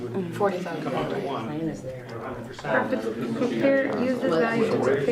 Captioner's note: classroom chattering